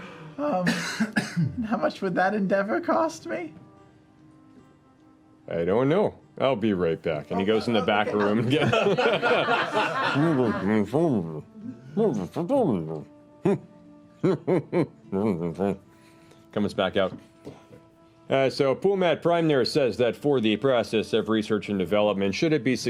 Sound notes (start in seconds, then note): 10.6 muted conversation